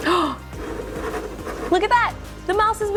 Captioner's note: gasps